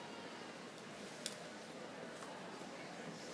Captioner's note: none